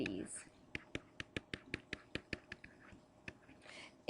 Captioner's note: pen scribbling